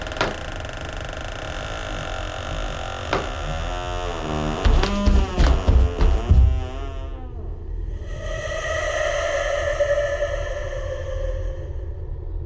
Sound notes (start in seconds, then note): 4.6 footsteps running